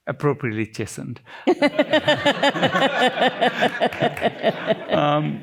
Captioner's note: laughter